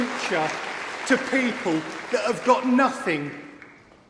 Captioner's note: applause